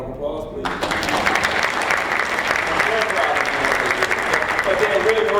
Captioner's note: applause